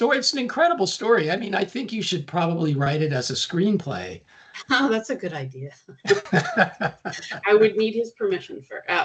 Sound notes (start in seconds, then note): 6.0 chuckling